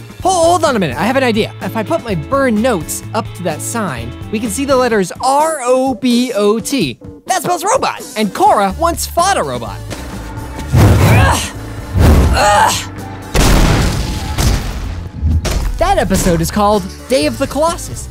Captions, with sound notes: Hold on a minute. I have an idea. If I put my burned notes up to that sign, we can see the letters R-O-B-O-T. That spells "robot"! And Korra once fought a robot. [grunting] That episode is called "Day of the Colossus."